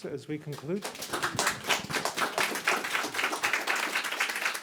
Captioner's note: group applauding